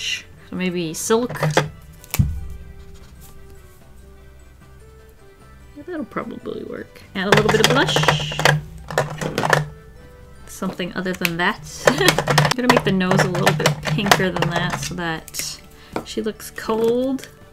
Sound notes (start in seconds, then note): 1.3 marker cap clicks; 8.9 marker case rattles